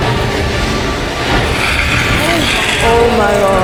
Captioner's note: growling